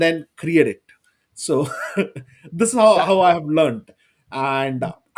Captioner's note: laughs